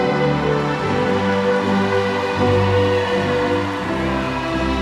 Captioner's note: audience cheering